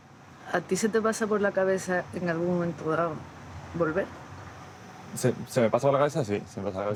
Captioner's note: speaking Spanish